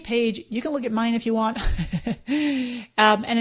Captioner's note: laughs